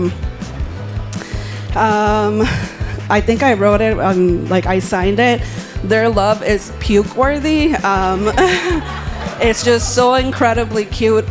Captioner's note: laughing